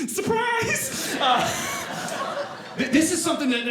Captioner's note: audience laughing